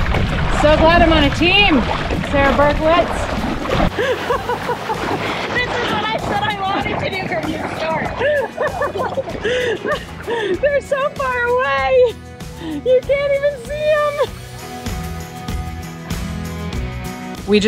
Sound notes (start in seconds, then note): 4.1 laughs; 8.6 laughs; 15.1 joyful music